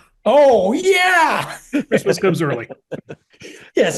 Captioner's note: laugh